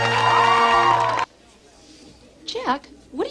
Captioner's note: applause; silence